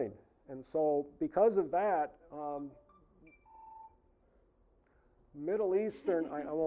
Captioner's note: cell phone ringing